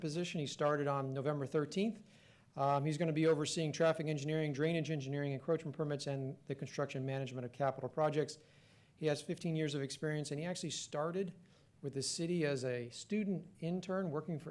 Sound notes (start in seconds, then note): none